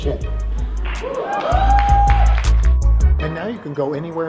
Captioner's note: audience cheering